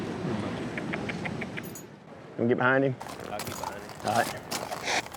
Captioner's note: makes clicking sounds